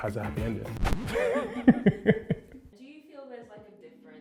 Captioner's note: vinyl scratch; laughs